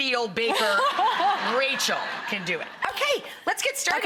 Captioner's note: laughing